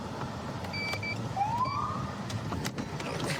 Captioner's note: siren chirps